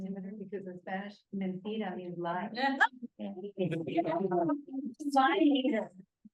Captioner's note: spanish